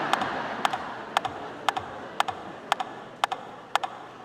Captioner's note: audience laughing